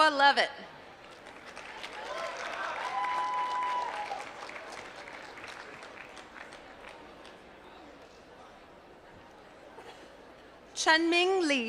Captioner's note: applause